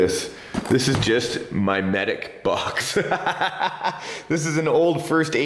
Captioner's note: laughs